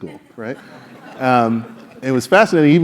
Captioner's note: laugh